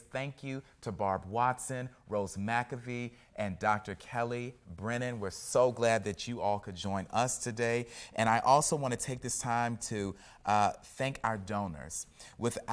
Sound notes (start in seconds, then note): none